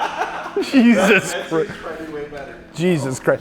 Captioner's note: laughing